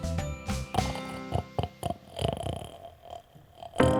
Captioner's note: snoring; piano music